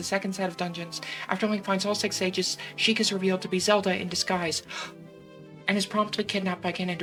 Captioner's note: gasp